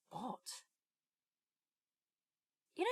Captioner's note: a pause